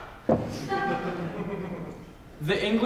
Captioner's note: audience laughs softly